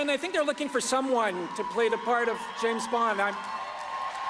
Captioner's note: applause